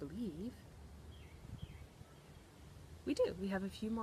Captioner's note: birds chirping